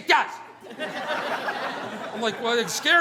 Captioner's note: audience laughing